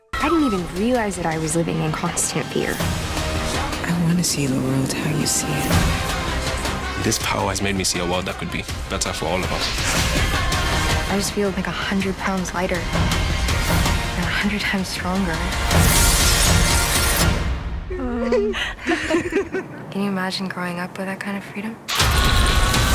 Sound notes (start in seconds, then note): 16.4 electricity sparking; 16.4 glass shattering; 18.0 both laughing; 22.7 yelling